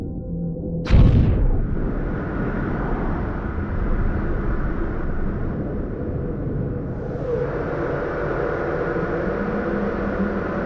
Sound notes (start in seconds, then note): 0.8 rush of air